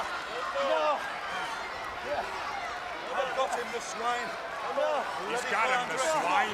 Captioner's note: crowd chatter